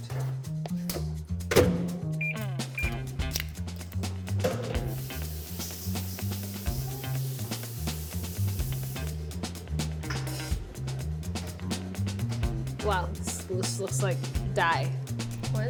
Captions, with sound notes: [UPTEMPO MUSIC] [MICROWAVE BEEPS] “Wow, this looks like dye.”